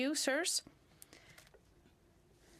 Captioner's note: speaking French